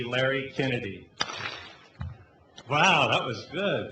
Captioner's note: clap